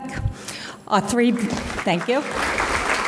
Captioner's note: audience clapping